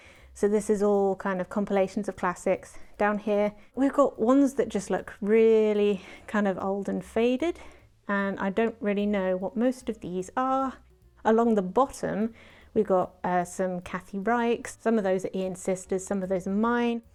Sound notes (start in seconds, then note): none